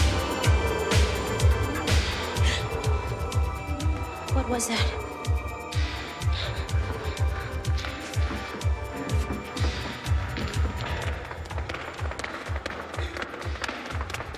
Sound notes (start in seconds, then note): 2.6 gasps; 11.2 footsteps clacking